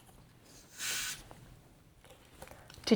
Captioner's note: hissing sound